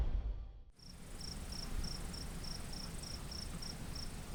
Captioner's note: crickets chriping